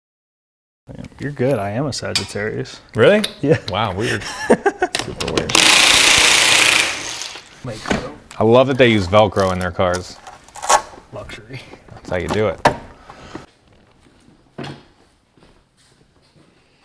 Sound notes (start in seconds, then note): 3.9 laughs softly; 4.9 impact wrench rattling